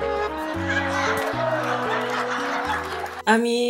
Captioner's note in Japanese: みんな笑う